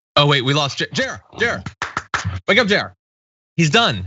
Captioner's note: applause